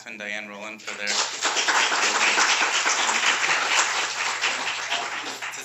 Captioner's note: applause